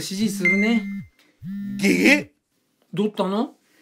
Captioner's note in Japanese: スマホの音